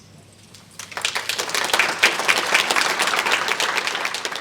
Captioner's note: audience applauding